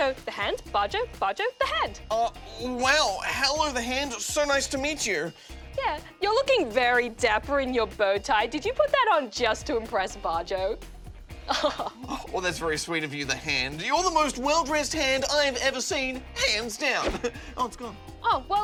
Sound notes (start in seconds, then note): 11.4 laughs